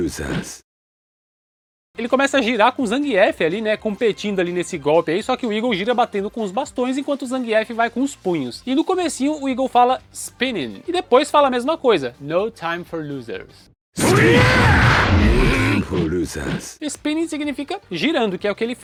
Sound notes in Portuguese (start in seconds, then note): 14.0 grito; 14.0 gemido